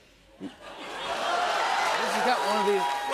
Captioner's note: laughter, cheers, applause